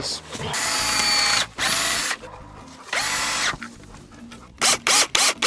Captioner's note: electric drill whirring